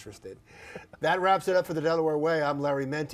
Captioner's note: laugh